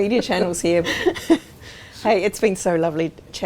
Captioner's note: laughing